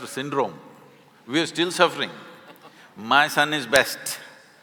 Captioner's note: Karan Johar laughs